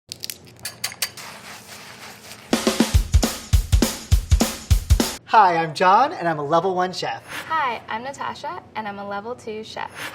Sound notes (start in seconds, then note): 0.1 egg cracks; 0.6 glass clinks; 0.6 food sizzles; 2.5 upbeat music